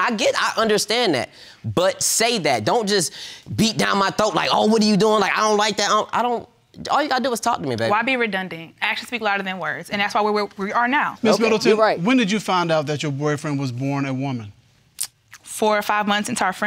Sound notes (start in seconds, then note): none